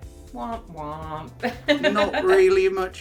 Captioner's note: laughs